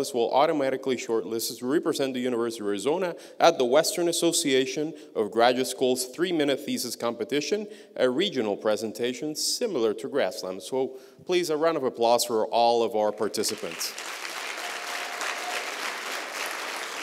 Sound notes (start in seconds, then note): 13.4 applause